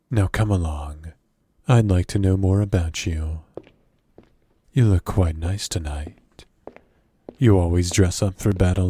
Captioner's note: walking